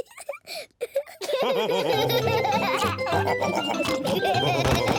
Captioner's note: giggles; all laugh